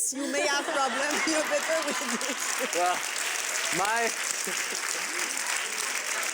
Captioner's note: laughter